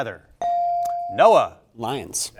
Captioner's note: buzzer chimes